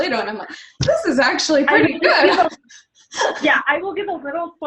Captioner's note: laughs